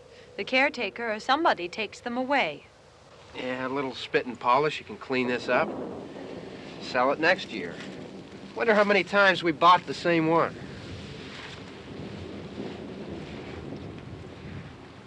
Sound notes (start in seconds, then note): 11.3 thunder rumbling far away